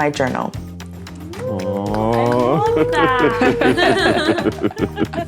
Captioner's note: group cheering